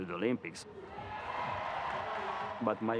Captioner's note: crowd cheering